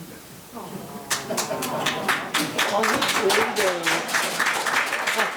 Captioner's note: members applauding